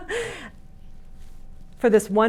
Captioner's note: laughs